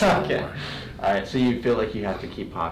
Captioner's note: laughing